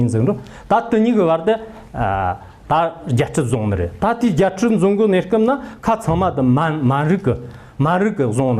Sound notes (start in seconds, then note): 1.9 manchu